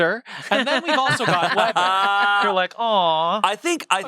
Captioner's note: everyone laughs